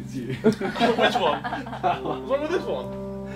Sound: group laughing

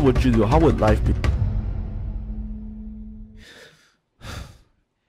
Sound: dramatic boom in the end; sigh

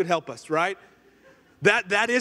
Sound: congregation laughing

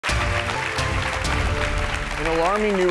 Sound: applause

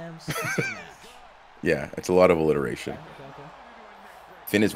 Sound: laugh

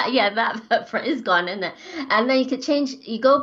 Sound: laughs

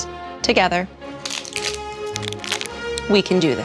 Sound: wrapper crinkling

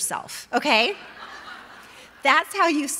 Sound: audience laughing

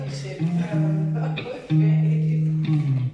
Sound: laughs

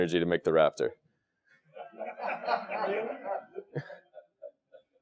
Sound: laugh

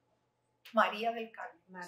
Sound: spanish Speaking

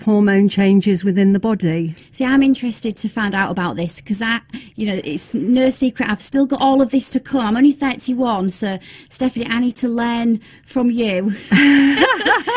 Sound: both laughing

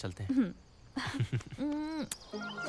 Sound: both chukle and kiss

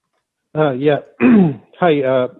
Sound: clears throat

